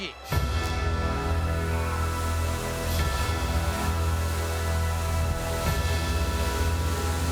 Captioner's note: pyro hissing; suspenseful music